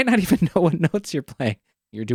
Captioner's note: laughs